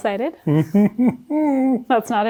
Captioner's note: laughing